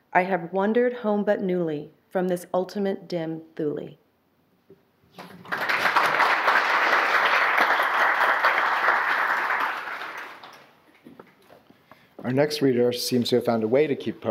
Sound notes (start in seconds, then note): 5.1 audience applause